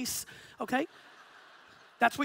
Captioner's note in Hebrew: הקהל צוחק